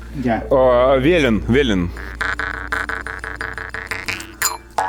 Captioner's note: sarcasm